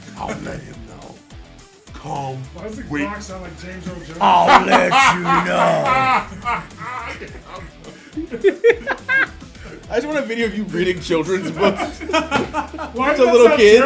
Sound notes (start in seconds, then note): 6.8 laugh